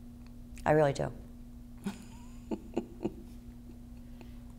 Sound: chuckles

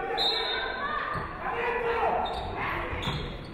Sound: referee whistles

